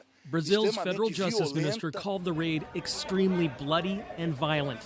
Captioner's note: speaking alternate language